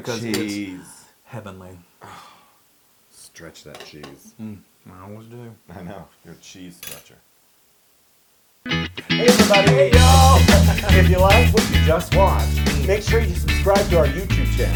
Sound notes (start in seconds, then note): 9.1 laugh